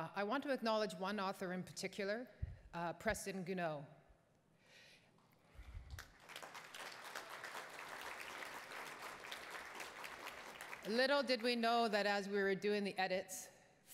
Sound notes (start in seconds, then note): 5.9 attendees applauding